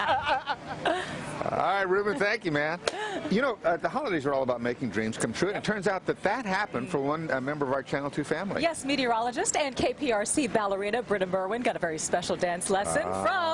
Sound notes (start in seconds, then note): 3.3 laughter